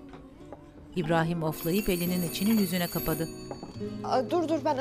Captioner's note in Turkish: Kapı zili sesi